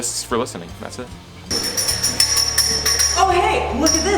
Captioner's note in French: Sons de clochette